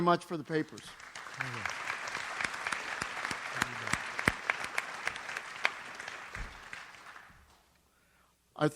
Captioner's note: audience applauds